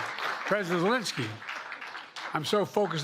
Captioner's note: cheers and applause